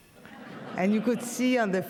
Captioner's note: audience laughs